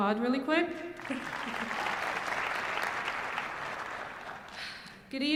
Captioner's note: applause